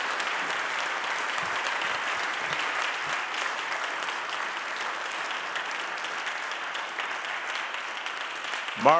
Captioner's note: audience applauding